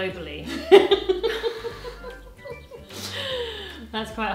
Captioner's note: both laughing